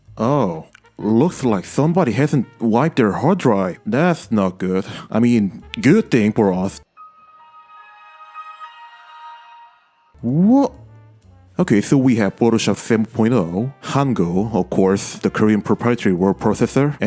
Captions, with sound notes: Oh, looks like somebody hasn't wiped their hard drive. That's not good. I mean good thing for us. [Windows XP startup sound plays] What... Okay, so we have Photoshop 7.0, Hangul, of course, the Korean proprietary word processor,